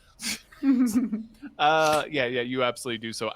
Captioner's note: chuckling